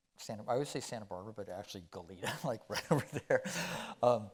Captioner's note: chuckling